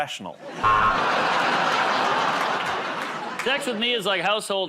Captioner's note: buzzer